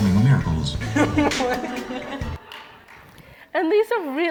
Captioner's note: laughing